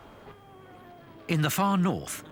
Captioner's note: siren wailing